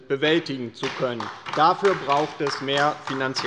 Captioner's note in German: Beifall bei der LINKEN